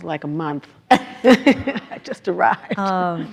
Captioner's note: everyone laughs